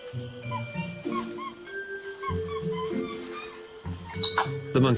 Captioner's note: hooting